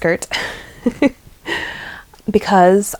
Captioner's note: laughs